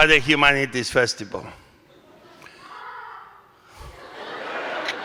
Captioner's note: one audience member laughs